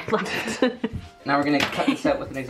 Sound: chuckling

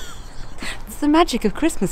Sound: laughs

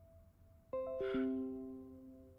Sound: computer notification

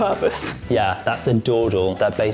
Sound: laughs

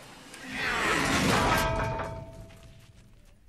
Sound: slam

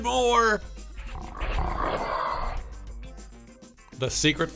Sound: animal roars

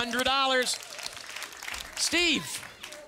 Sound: audience applause

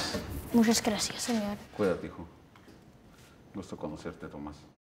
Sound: speaking foreign language

